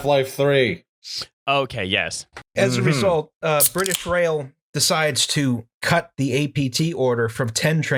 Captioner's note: TASTY beer can snap